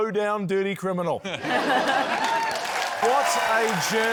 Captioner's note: laughter